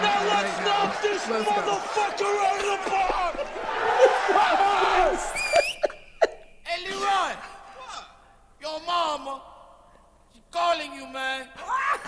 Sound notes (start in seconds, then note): 3.5 people cheering; 5.3 Leonardo shouts and whistles